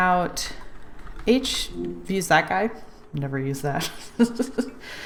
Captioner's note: laughs